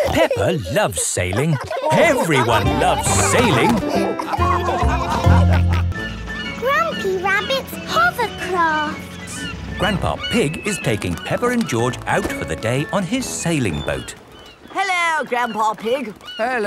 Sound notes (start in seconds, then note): 0.0 both laughing; 4.5 all laughing